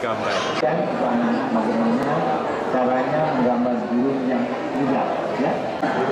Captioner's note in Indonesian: suara TV